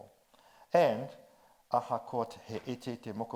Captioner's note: speaks in foreign language